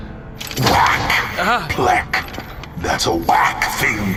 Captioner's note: lightning strikes